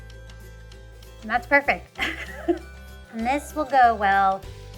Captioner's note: laughs